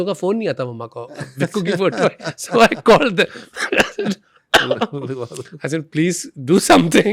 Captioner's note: coughs